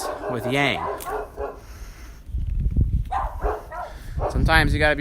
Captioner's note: dogs barking